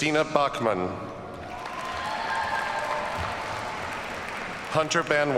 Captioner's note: audience cheers and applauds